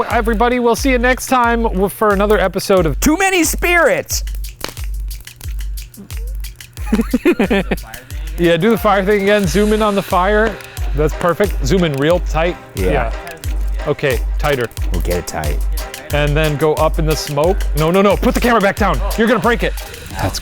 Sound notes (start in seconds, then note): 5.1 all chuckle; 7.5 indistinct chatters